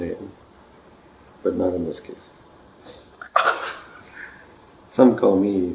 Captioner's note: laughs